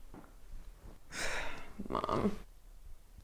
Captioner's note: sighs